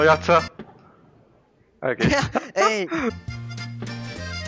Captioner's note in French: rires